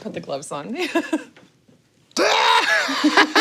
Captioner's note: laughs